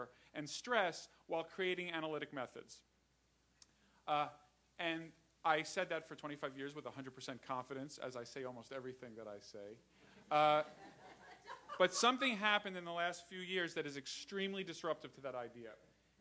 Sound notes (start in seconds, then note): 12.1 laughter